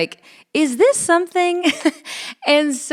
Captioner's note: chuckles